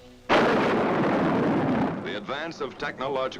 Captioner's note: bomb booming